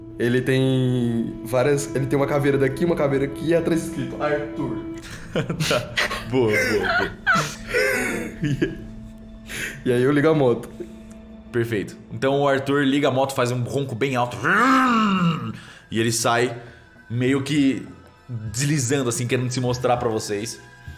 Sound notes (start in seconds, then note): 5.0 laughs